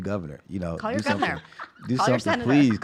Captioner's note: laughs